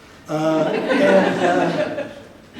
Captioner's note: audience laughs